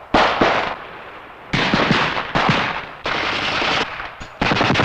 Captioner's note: gunshots